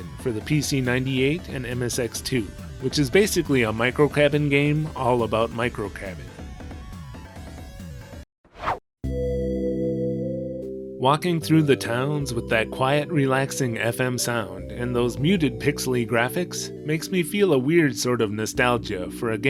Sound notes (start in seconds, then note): 6.0 whoosh